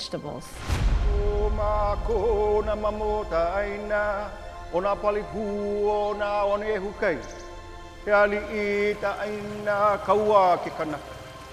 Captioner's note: chanting in Hawaiian